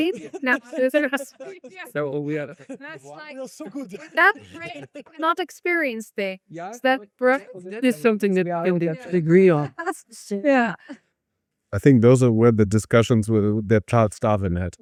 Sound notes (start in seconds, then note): 6.1 laughs